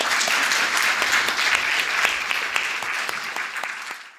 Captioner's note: audience applauding